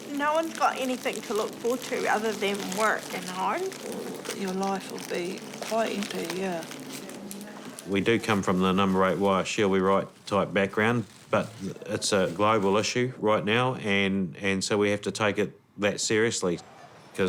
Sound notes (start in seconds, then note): none